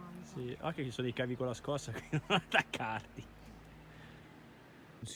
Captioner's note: laughter